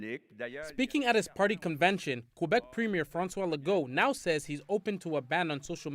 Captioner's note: speaking French